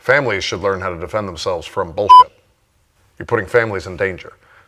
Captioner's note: beep